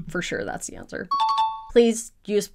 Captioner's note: question dings